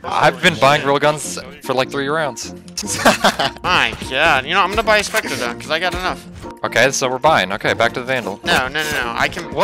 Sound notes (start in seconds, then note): 2.8 laughing